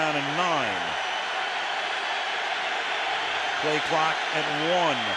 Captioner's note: crowd cheering